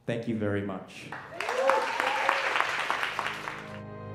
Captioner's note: audience clapping; dramatic music